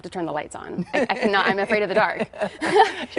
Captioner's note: laughter